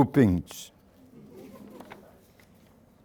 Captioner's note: laughter